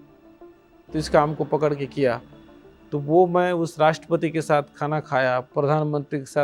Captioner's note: speaking foreign language